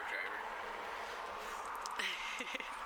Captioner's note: laughs